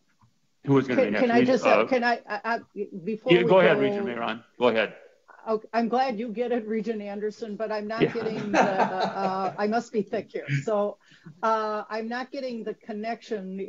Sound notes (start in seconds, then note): 8.0 laughing